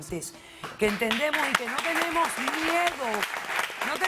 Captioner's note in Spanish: Aplausos